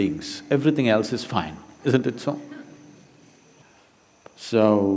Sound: few laugh

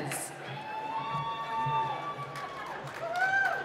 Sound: cheering

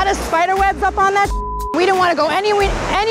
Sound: computer computer bleeps

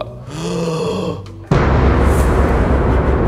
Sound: gasp; intense music

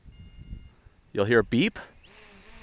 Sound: drone beeping; drone humming

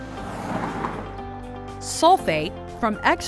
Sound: car approaching

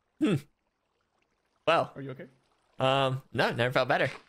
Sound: in English

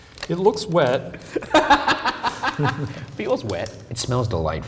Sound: laughs

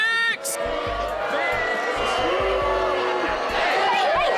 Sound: booing

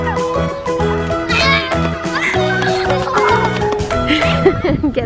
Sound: kids yelling

